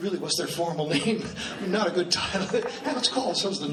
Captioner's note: laughs